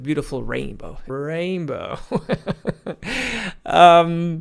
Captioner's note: laughs